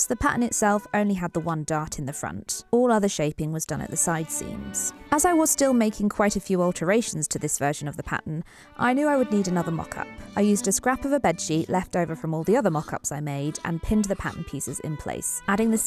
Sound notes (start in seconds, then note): none